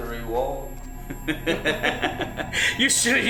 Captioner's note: evil laughter